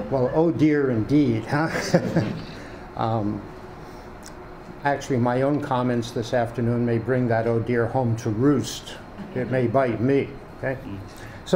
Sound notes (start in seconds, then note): 1.4 laughs